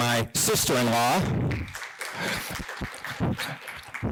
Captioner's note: applause